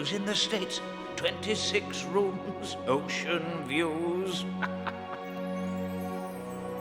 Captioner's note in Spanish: risas